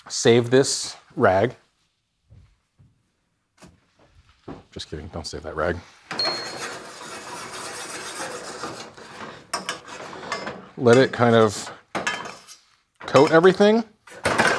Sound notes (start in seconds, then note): 6.2 pan rasping